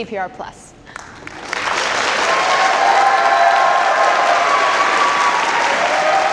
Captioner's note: audience cheers and applause